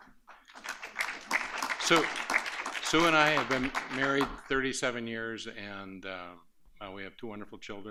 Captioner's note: applause